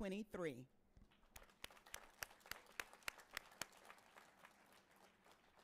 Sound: audience applauding

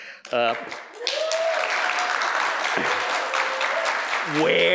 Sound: applause, cheering

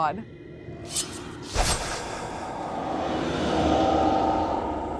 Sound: scythe whooshes

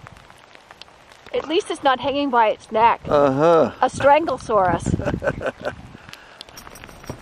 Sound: chuckle

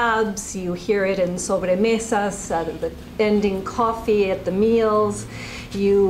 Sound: spanish

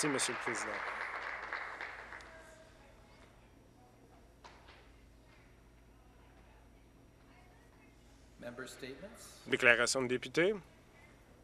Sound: applause

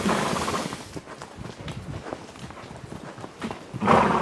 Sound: horse snorting

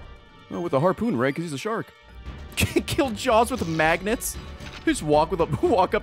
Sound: laughs

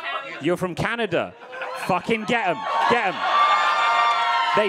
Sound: audience cheering

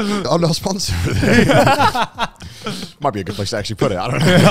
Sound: all laughing

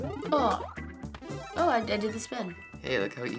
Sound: blip; chiming

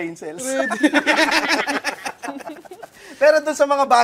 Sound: laughter

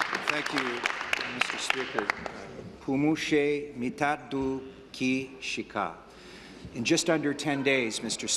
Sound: applause

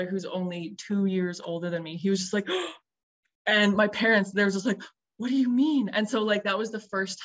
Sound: gasp

